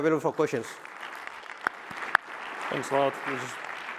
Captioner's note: applause